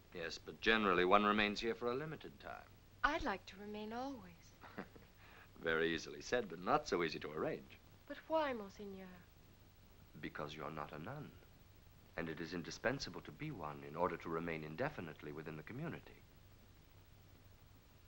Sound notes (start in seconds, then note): 4.6 chuckling